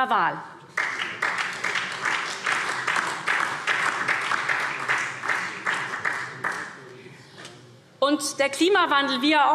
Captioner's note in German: Beifall SPD und DIE LINKE